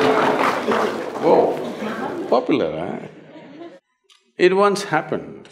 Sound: laughter/Applause; laughter

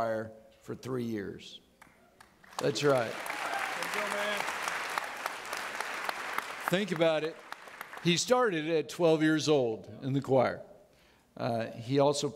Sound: audience clapping

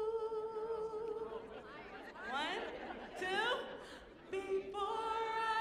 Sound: audience chattering

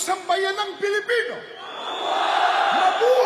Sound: crowd chants: "Long live!"

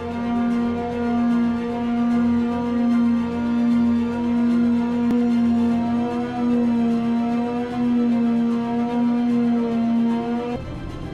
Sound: sanding

